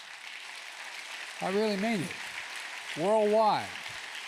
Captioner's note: applause